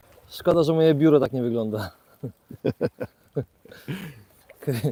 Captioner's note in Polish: śmiech